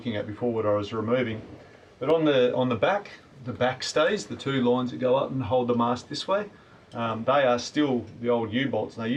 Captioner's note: none